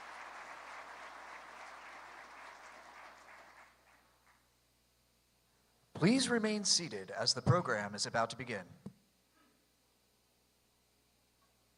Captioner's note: applause